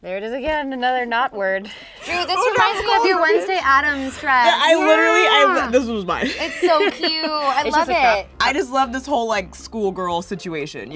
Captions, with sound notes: - There it is again, another not-word. - (laughs) Oh, that was cold. - Drew, this reminds me of your Wednesday Addams dress. - I literally, this was mine. - Yeah! - It's so cute, I love it! - (laughs) I just love this whole, like, schoolgirl situation,